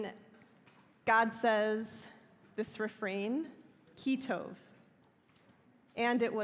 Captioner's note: hebrew